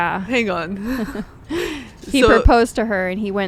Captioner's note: both laughing